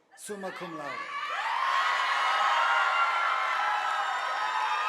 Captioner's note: audience applauding